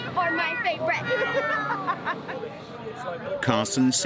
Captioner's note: mother laughing